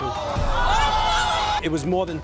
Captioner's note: crowd shouting